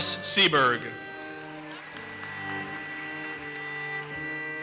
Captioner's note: audience applauses